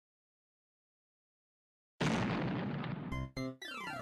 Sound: realistic explosion

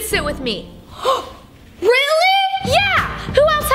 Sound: gasps

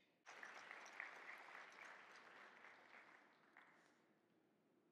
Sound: audience clapping

